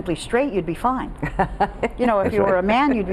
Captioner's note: laughing